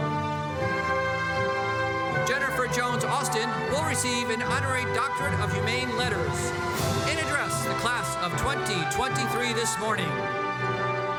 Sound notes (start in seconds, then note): none